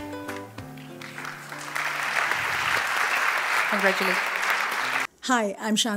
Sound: applause

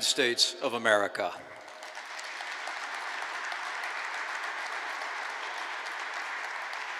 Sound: applause

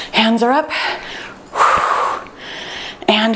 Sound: breathes out deeply

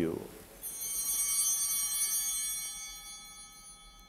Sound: bell ringing

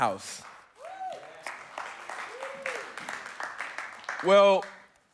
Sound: congregants applauding; congregants cheering

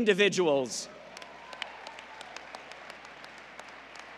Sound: applause

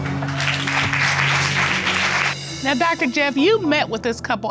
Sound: audience applauding

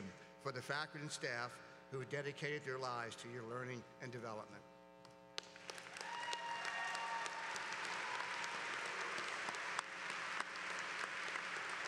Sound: applause

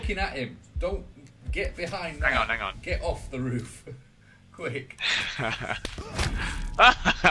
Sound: laughs

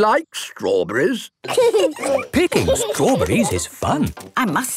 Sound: laughing

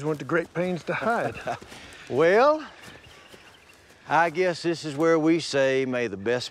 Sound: laughs

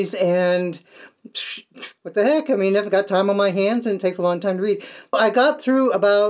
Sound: splutter

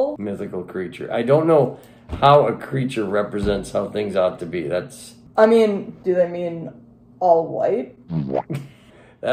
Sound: laughing; boowomp sound

